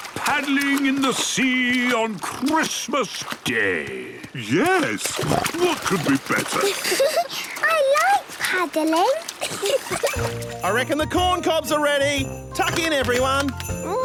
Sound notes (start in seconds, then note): 5.0 snorting; 9.3 giggling